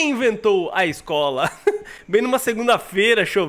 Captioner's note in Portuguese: risos